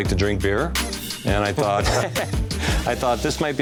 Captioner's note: laughter